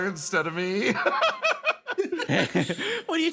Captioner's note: laugh